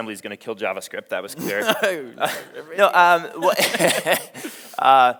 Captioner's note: chuckles; both chuckling